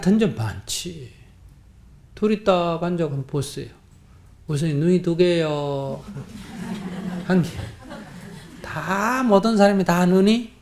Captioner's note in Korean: 청중 웃음